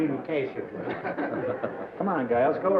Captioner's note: laughter